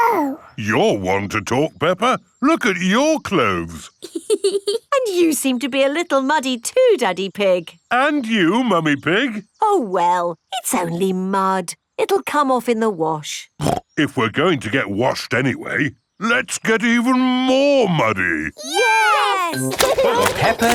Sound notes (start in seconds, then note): 4.0 laughs; 18.6 laughing